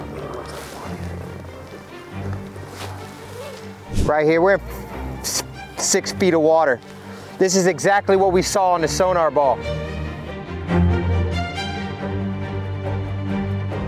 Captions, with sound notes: (whispering) It looks like a Pontiac. (suspenseful music) Right here we're at six feet of water. This is exactly what we saw on the sonar ball. (dramatic music intensifies)